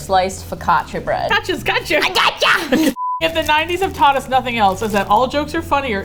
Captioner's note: raspy voice, yelling intensely